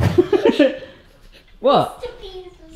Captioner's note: laughing